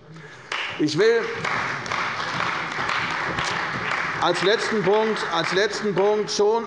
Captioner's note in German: Beifall bei der CDU und dem BÜNDNIS 90/DIE GRÜNEN